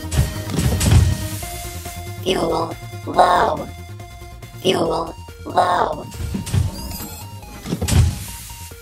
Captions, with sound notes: - (robotic voice) Fuel low. Fuel low.